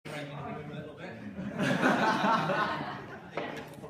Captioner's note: laughter